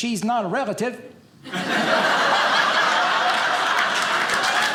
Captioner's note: audience laughing; audience applauding